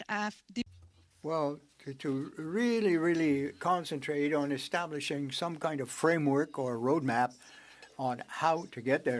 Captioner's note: speaking French